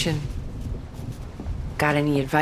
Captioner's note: thunder rumbles